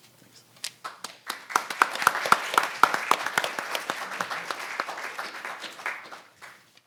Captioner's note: audience and panelists applaud